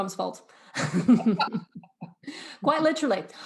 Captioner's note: laughs loudly